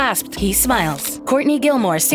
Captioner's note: camera snaps a photo